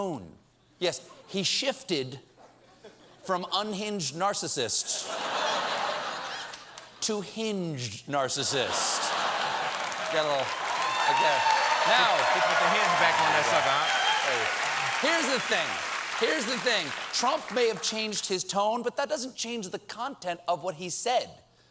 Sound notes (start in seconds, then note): 4.9 laughter; 5.5 applause; 9.1 applause